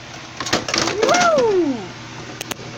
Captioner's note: exclaims